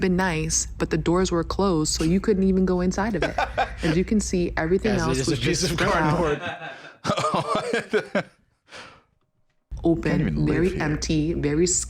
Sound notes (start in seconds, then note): 3.2 laughs; 6.2 laugh